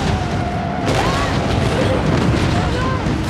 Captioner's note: screams